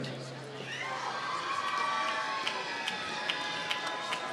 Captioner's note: applause